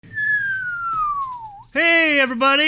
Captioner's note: whistles